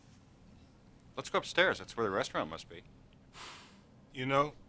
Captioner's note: sighs